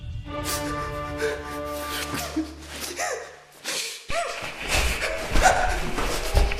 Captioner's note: gasping